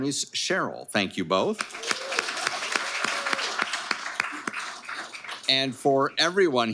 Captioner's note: audience applauding